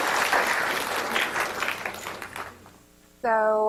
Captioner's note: audience clapping